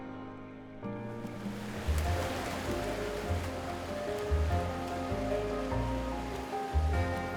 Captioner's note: water splashing, music